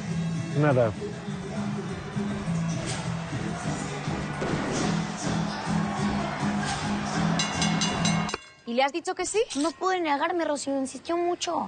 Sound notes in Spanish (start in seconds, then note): 2.7 Bullicio; 7.2 Campanadas